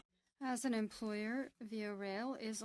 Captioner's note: speaking French